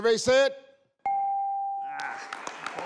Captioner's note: scoreboard dings